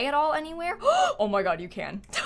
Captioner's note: gasps